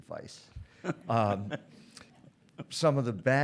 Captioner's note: audience laughs